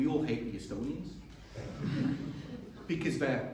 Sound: chuckling

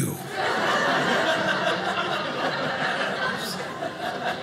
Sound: audience laughing

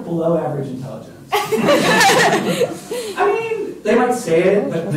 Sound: laughter

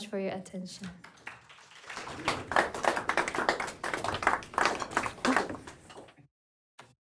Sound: applause

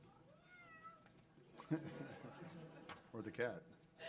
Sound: robotic cat meows

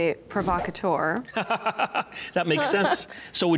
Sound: laughing

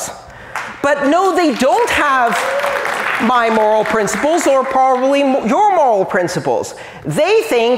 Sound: applause

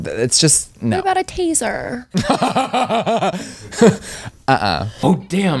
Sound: laughs

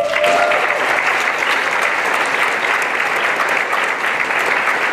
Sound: applause and cheering

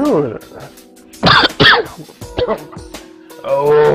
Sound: coughs

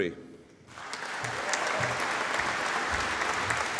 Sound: audience applauding

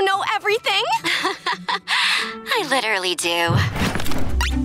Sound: laughing

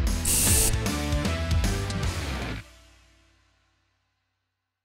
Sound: exciting rock music; spray paint hisses

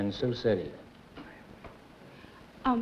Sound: whispering

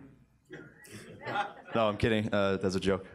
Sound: sparse laughs

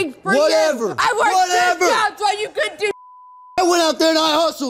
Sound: beep

